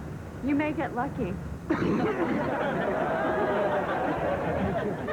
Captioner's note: coughing